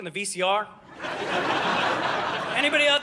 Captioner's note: audience laughing